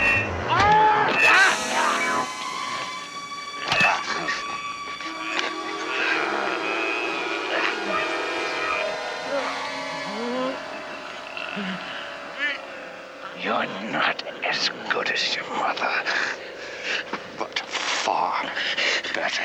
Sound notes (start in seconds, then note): 3.5 grunting; 5.9 tense music